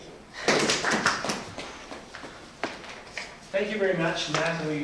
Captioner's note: crowd clapping